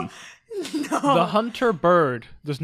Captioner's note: laughs